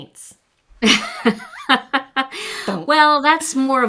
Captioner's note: chuckles